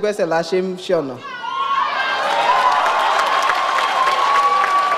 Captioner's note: audience cheers